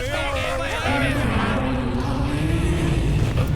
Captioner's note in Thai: เสียงนักโทษชลมุนหลบหนีกัน; เสียงกระซิบเรียกเอ็มเมด